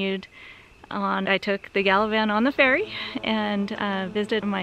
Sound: ferry horn

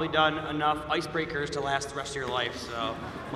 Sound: cheers and applause

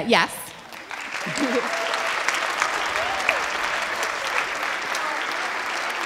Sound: audience applauding

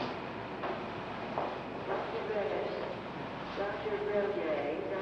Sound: footsteps clanging

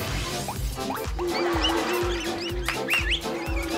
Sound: Queives squeaking; claps, whistles

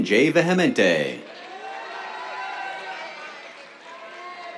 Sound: cheers, applause

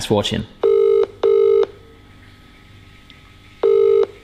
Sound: phone ringing

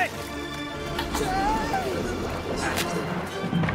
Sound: screams

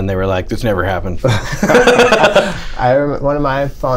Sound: laughter

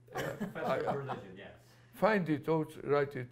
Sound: laughter

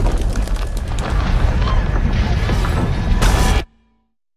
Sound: bird wings flapping; people screaming; explosion

